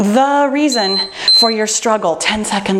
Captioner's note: timer beeping